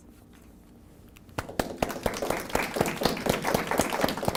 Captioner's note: applause